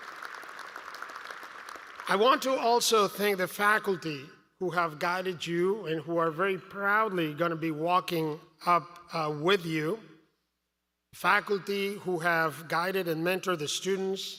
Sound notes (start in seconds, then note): 1.6 applause